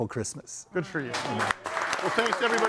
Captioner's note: audience applauding